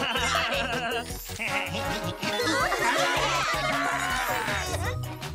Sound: snickering; cheering

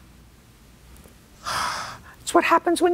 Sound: sighs

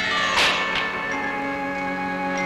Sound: chair thuds

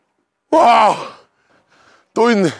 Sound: screaming

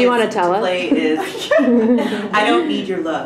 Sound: laughing

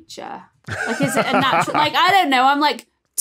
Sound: laughs

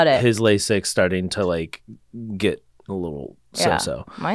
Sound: faintly speaking

